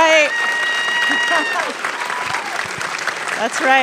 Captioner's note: applause